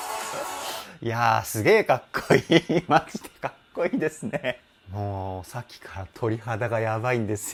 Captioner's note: laughter